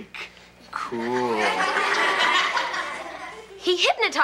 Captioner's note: audience laughs